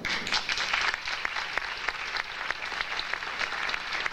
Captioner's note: audience applauding